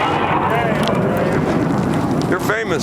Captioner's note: military Plane / Rocket flies over very low